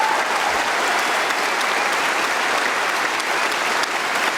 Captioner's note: applause